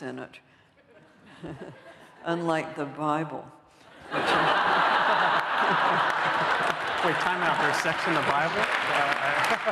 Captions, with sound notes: in it, unlike the Bible. [LAUGHTER] Wait, time out, there's sex in the Bible?